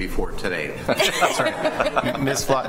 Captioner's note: laughter